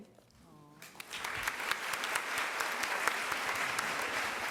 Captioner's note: applause